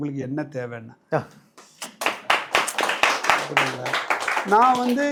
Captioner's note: applause